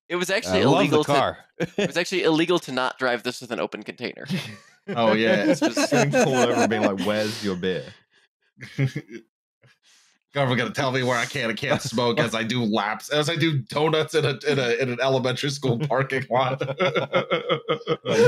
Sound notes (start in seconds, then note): 4.3 laughter; 15.4 laughter